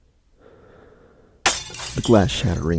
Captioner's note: glass shattering